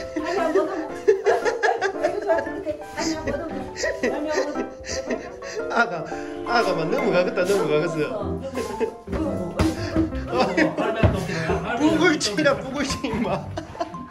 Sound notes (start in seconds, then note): 9.1 thump thump thump; 11.0 thump